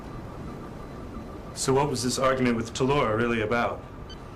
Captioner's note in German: Scannergeräusche